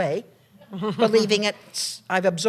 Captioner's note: laughter